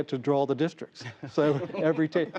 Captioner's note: laughter